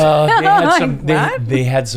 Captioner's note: laughs